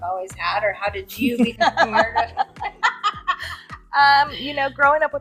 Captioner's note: ladies laughing